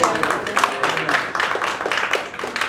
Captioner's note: applause